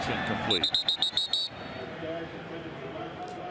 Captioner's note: whistle blasting